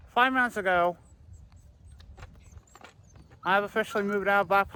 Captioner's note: Ella whimpers